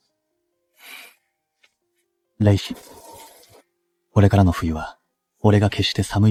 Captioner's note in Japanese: 鼻息